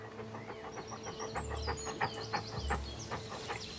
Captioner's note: panting